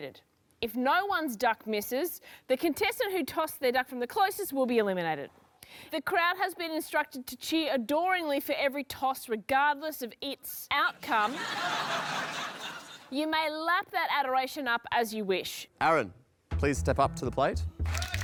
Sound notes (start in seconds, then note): 11.0 laughter